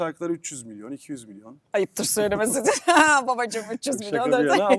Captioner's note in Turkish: kahkaha